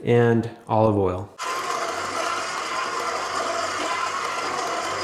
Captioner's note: mixer whirring